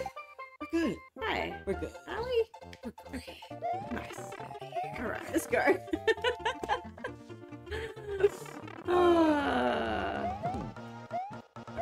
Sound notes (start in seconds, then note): 5.8 both laugh; 10.3 music ramps up